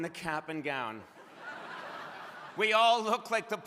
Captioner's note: crowd laughing